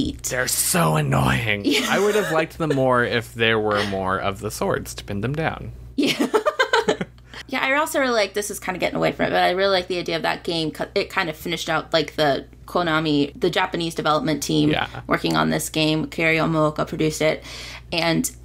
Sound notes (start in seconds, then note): 1.5 laughter; 6.3 more laughter